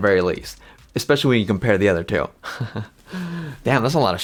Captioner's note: laughs